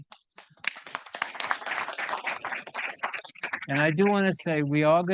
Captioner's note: audience applauding